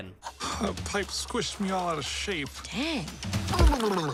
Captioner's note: gag* Oh